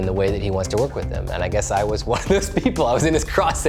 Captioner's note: chuckles